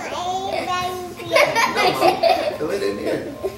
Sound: laughs

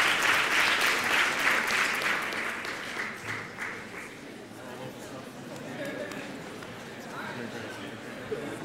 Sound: indistinct chatter

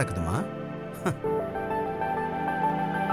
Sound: chuckles

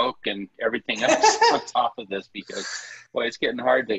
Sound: laughter

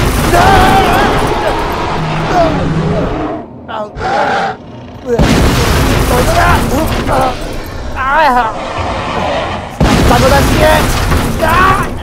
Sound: crash Sounds; struggle Sounds and Crash Sounds

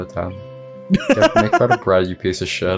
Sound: cackles

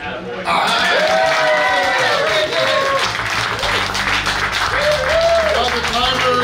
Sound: cheering and clapping

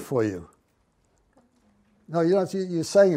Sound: voiceover

